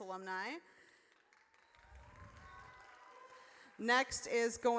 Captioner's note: audience cheers